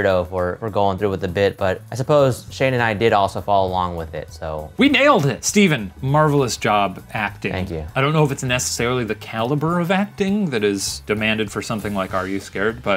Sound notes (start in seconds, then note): none